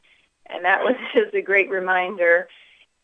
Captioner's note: laughs